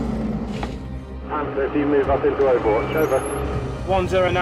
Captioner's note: soldiers talking over radio